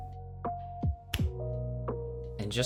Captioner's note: snaps cringely